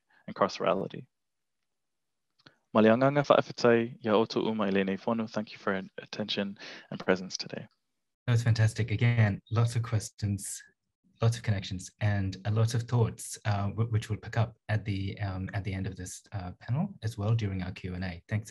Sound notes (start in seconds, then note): 3.0 speaking in Samoan language